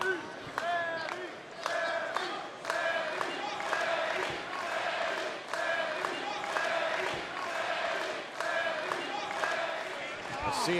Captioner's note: fans chanting